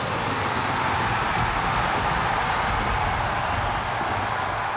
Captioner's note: audience continues cheering